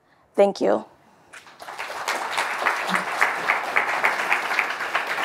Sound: audience applauding

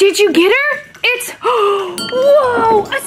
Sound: gasps

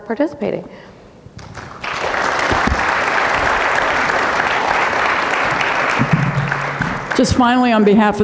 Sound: audience clapping

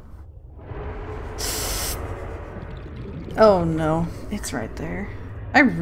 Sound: sharp intake of breath

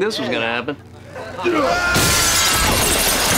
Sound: screaming

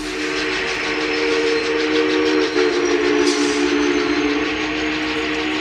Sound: train horn blaring

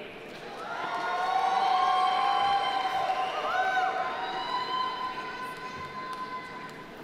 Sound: audience applauding; audience cheering

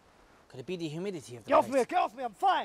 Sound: yelling

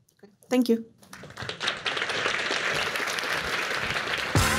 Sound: applause

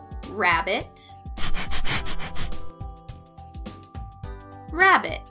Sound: rabbit panting

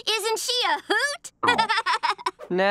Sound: laughing

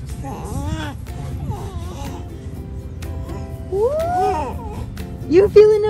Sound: babbling

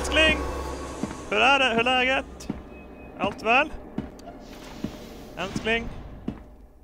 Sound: Swedish

